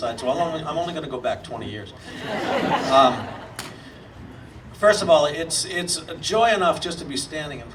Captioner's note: audience laughing